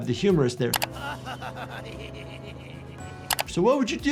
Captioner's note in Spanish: el bandido se ríe